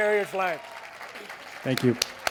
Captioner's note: crowd applauds